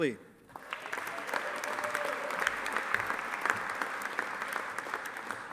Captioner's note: audience applauding